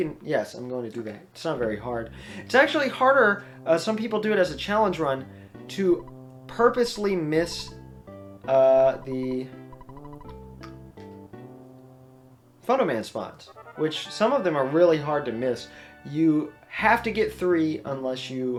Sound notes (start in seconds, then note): 9.7 weird mouth noises